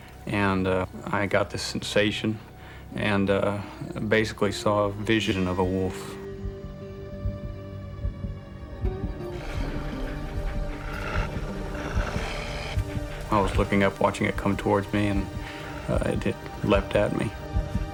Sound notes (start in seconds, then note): 9.2 growling